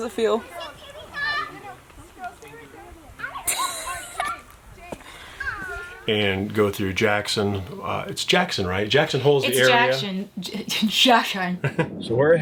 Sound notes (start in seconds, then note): 3.2 laughing